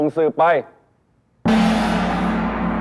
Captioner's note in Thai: เสียงฆ้อง